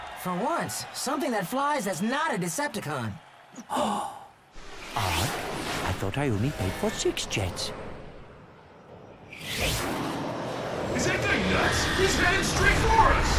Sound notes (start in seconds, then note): 3.5 exclaims